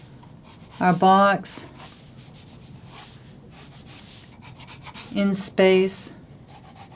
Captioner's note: drawing sounds